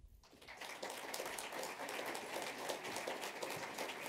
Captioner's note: applause